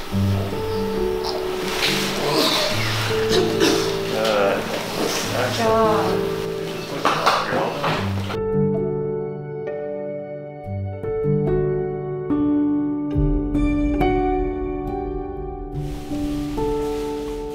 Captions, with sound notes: (coughs) - Good. - Good job. - It went well, you're all done. (calm music)